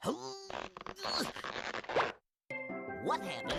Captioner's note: grunting